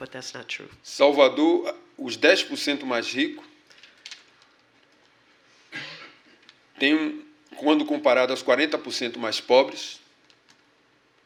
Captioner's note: speaking portuguese